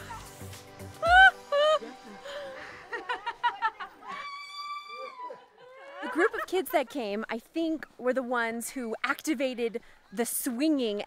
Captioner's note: laughter